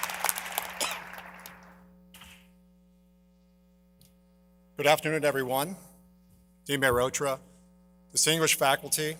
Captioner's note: applause